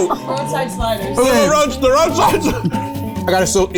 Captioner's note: fumbling